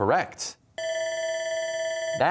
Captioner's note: bell ringing